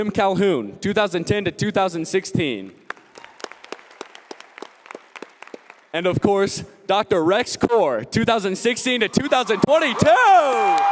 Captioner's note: applause